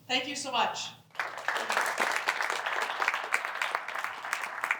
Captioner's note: applause